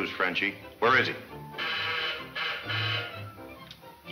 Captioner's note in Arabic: صوت صفارة الإنذار